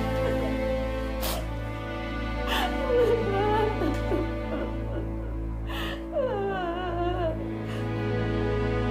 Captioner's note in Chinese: 哭聲